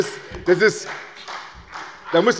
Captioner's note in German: Beifall bei Abgeordneten der SPD